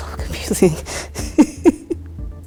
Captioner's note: laughs